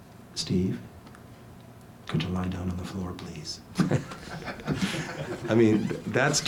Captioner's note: laughs